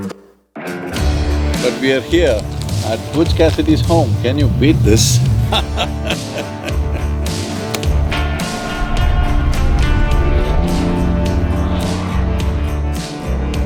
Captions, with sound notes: But we are here, at Butch Cassidy's home, can you beat this? (Laughs)